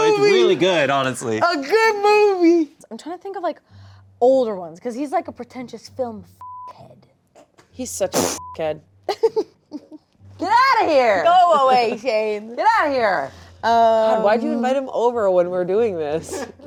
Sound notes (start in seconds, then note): 6.4 beep; 8.4 beep; 9.1 laughs